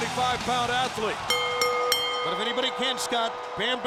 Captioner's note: bell ringing